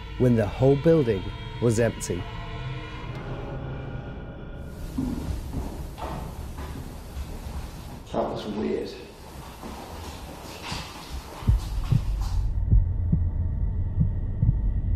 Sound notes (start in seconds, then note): 4.7 footsteps echo faintly